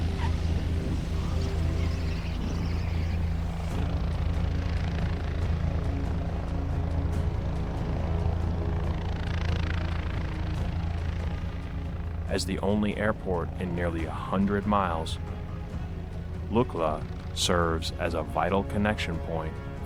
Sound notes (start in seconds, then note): 4.0 helicopter rumbling; 4.0 tense music